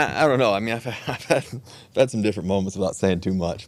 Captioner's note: Russell laughs